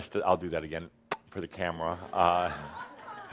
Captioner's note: laughter